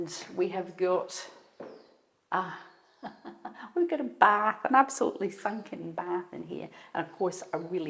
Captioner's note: chuckles